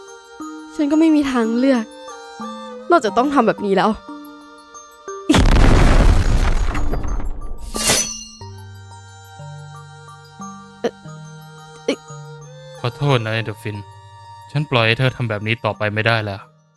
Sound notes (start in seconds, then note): 5.3 explosion; 7.7 knife catch